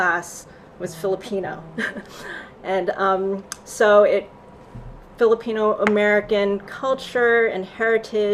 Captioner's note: laughs